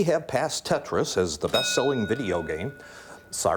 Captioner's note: ding